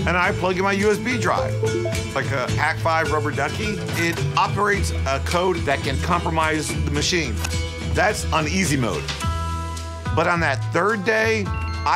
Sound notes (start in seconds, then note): 1.3 USB drive chimes